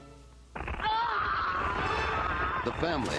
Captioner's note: ice crackling